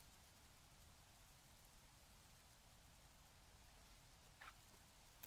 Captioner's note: wind